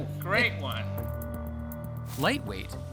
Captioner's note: coughing